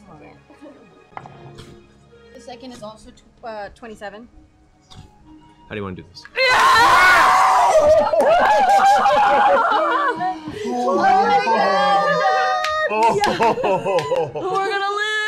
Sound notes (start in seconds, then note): 6.4 cheering